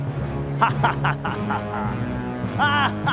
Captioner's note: laughs